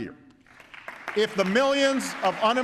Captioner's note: applause